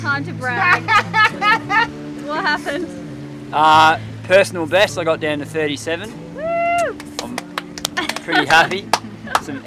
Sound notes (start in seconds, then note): 0.7 laughing; 6.3 cheering; 6.7 both applauding